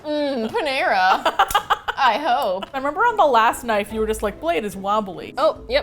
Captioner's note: laughs